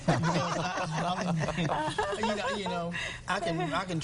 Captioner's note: laughter